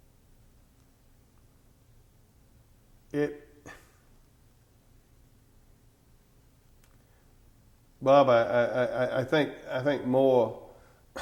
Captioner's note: audio gap